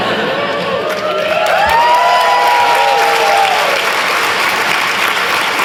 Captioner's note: laughter; cheers and applause